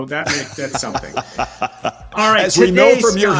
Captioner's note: laughter